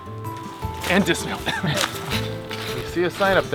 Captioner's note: both laugh